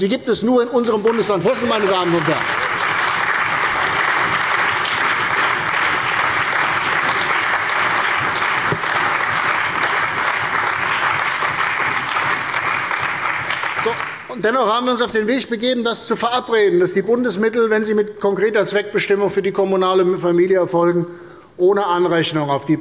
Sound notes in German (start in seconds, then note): 3.7 Beifall bei der CDU und dem BÜNDNIS 90/DIE GRÜNEN